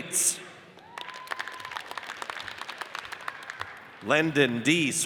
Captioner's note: audience cheers and applauds